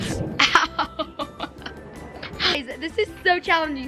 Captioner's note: laughs